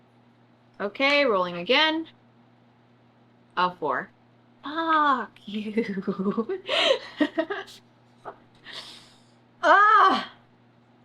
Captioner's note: laughs